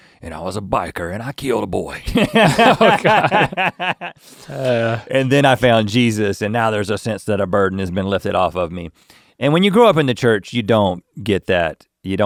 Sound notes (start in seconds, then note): 2.2 laughing